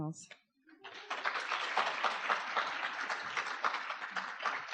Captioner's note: audience applause